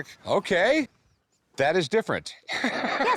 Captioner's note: laughs